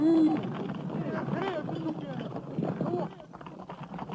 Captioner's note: indistinct chattering